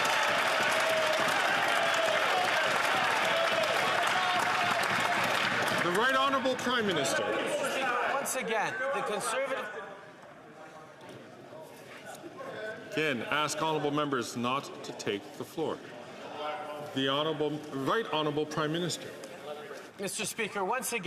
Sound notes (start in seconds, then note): 3.4 cheers & Applause